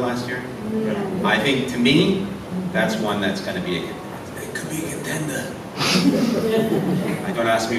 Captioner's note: in Marlon Brando voice